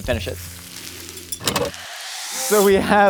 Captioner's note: sand fizzing